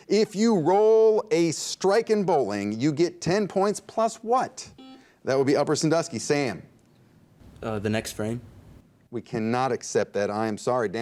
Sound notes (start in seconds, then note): 4.8 buzzer dings